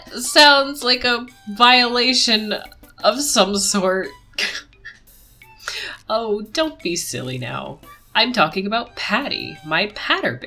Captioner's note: laughs